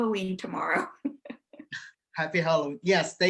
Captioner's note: laughing